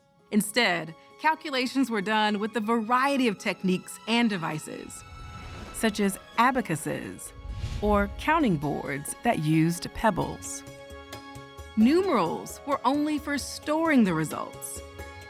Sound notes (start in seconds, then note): none